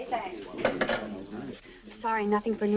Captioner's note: phone clatters